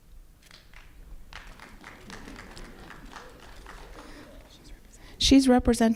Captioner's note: applause